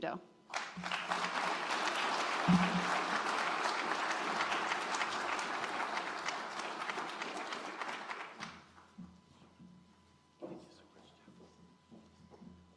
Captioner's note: applause